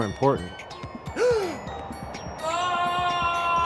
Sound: gasps

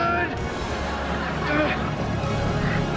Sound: groaning

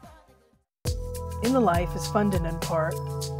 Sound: announcer, over music

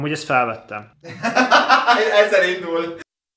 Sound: ironic speech

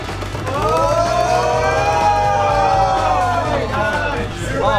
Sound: group cheering

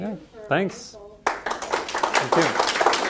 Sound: applause

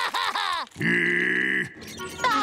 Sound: laughing; growling; laughing

